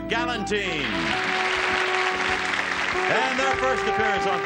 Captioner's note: audience cheers